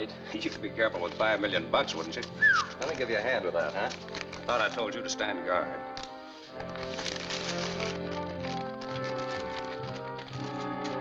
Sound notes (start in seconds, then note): 2.3 whistles